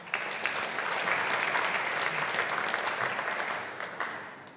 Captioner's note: audience applauding